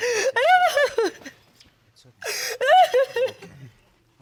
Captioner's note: crying continues